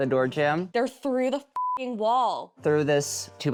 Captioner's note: beeps